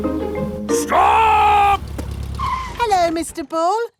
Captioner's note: brakes squeal